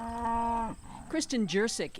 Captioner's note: cows mooing